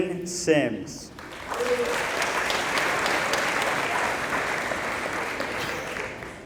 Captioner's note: applause